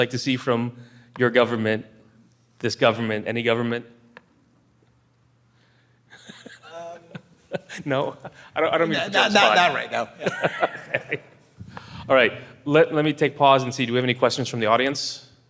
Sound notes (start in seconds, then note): 6.1 laughter; 8.7 crowd laughter